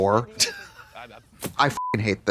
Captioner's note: Katya wheezes; beep